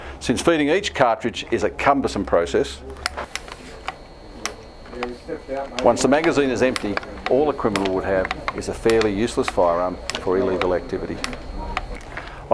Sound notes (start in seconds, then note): 3.0 sound of feeding cartridges